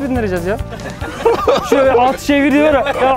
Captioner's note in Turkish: Gülüşmeler